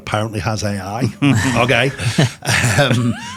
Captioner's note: hosts laughing